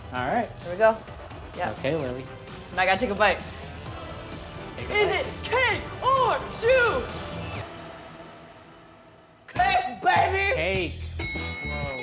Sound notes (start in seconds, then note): 5.9 shouting